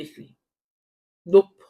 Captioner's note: paause